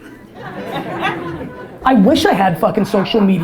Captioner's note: audience laughter